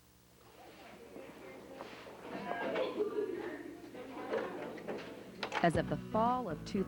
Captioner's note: students chattering